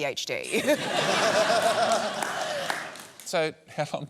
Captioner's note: laughter